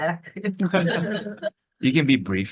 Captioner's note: attendees laughing